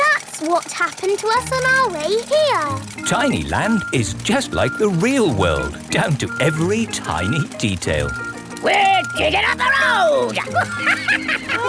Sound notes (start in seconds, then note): 10.1 chuckles